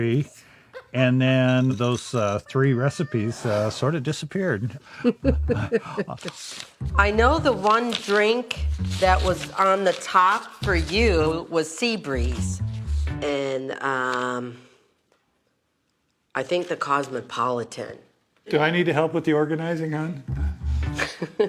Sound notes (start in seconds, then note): 4.8 laughs; 20.8 laughs